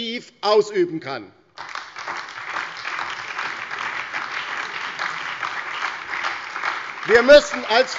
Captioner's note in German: Beifall bei der LINKEN, der SPD und der FDP